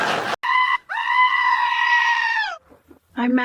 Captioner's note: goat Screams